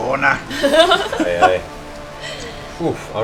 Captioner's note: laughter